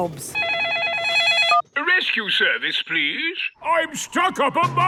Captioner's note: phone ringing